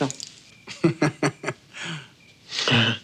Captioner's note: laughing; chuckles awkwardly